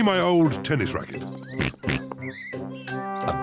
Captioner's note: oinks